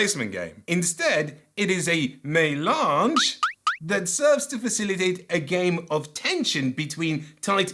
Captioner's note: doink doink sound